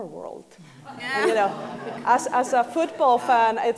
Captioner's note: laughing